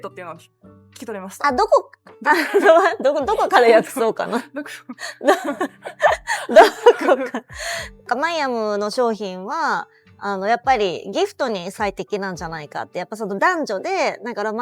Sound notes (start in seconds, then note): 2.3 laughs